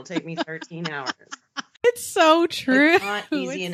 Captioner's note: both laughing